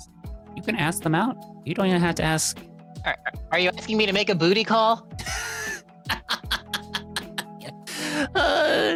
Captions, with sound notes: you can ask them out. You don't even have to ask. Are you asking me to make a booty call? (laughs)